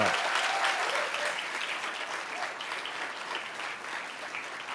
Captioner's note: audience applauding